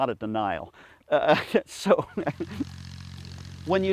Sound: laughs

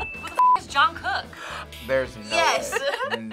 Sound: beep

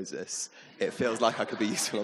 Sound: audience laughing

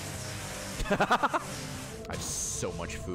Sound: laughs

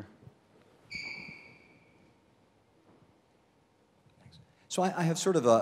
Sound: shoes squeak loudly

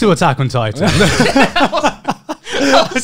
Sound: laughing

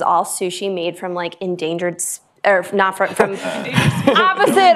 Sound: laughter

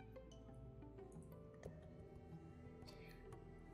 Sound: none

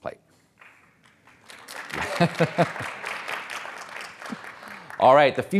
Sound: audience applauds

